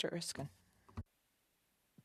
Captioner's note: speaking French